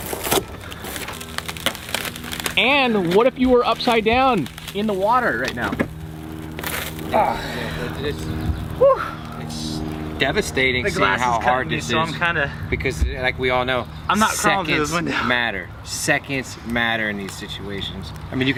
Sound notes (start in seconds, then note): 0.3 tool scraping; 7.2 breathing heavily